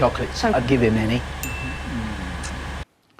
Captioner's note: ding; slurping finger